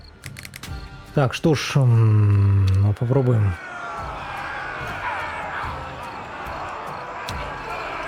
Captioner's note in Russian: крик; ликование